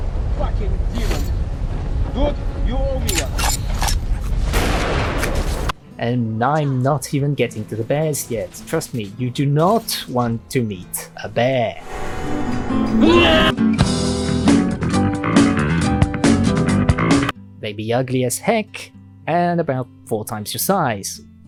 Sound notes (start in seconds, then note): 4.4 lightning strike